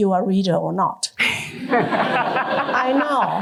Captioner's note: laughter